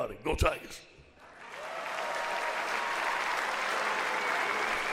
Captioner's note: audience applauds